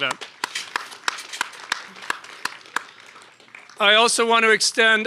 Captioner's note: audience applauds